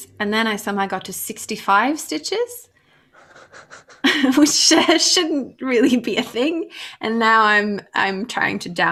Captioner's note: laughs